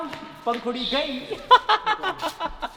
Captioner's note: laughing